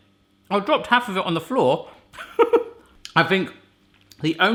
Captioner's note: chuckling